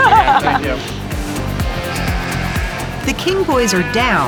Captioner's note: laughs